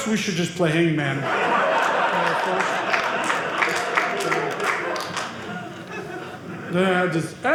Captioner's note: audience laughing